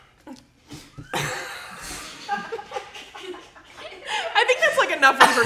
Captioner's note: all laughing